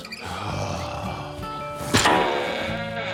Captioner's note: Chef sighs heavily; doors squeaks